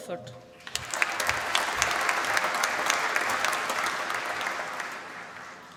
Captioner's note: applause